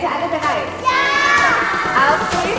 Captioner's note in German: Kinder schreien